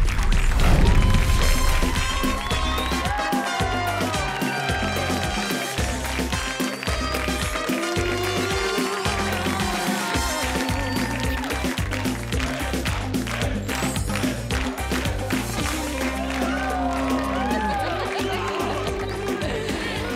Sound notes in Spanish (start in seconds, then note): 8.4 Aplausos; 8.4 Tema musical